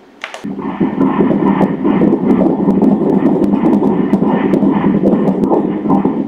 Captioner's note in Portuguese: batimentos cardíacos